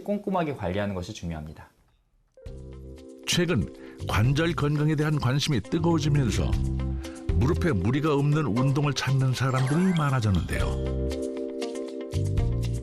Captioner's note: voiceover